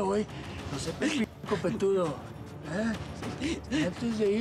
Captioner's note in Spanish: llanto de ella